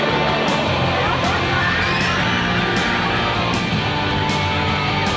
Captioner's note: upbeat music; riders screaming